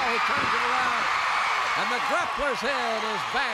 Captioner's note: crowd cheers